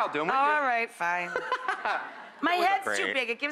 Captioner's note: laughing